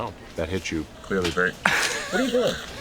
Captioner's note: laughs